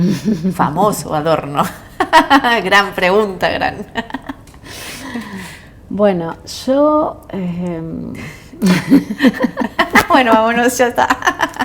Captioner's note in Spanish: risas